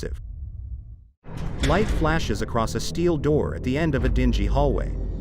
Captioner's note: dramatic sound; door clangs ominously